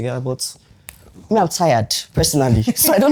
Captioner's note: laughs